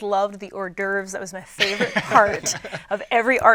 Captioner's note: laughing